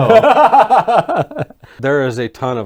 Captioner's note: laughing